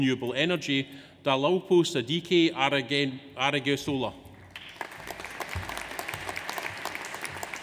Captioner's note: audience applauds